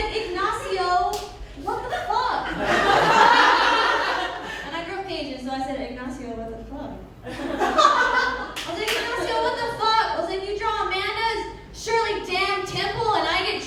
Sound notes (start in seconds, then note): 1.8 laughter; 7.2 laughter